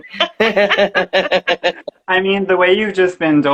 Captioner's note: laughing